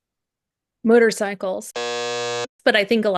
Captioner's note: buzzer sound